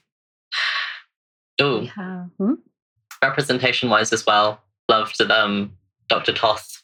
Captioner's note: laughs